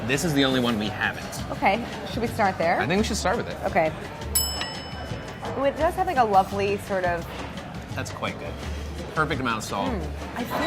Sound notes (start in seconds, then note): 4.3 bell dinging